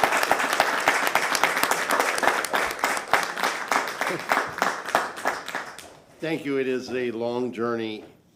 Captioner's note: applause